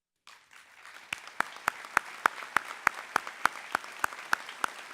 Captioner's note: people applauding